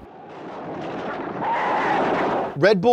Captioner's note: chariots crashing